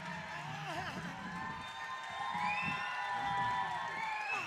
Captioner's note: audience cheering